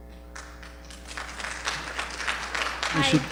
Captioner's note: quiet applause